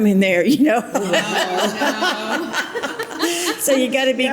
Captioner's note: all laugh